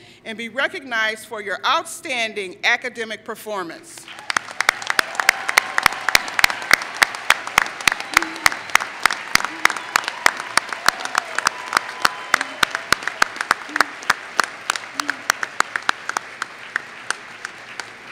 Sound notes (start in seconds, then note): 4.0 applause